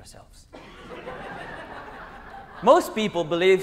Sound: laughter

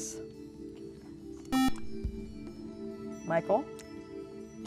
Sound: buzzer

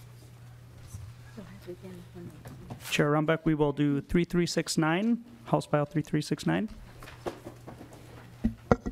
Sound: gavel

